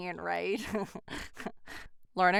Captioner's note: chuckles